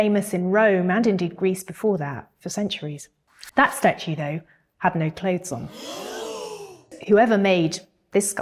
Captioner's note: gasp